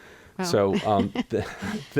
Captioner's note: laughter